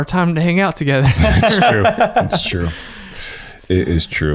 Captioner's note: laughs